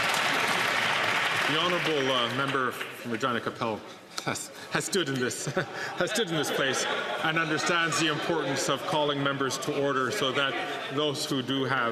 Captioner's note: some Applause